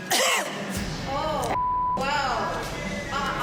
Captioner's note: cough